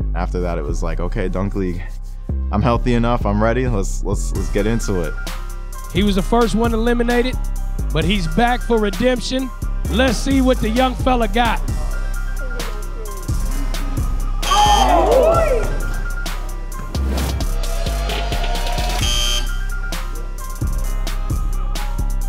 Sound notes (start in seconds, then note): 14.4 buzzer buzzing; 17.0 buzzer buzzing; 17.0 upbeat music